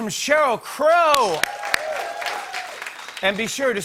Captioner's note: cheers and applause